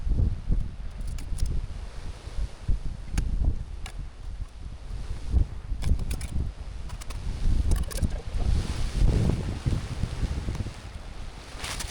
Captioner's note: wind blowing